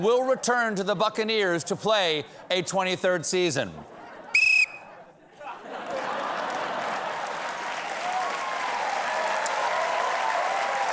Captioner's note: cheers and applause; whistles